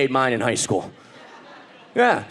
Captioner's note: audience laughing